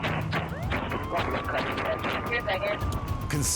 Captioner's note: siren blaring; feet kicking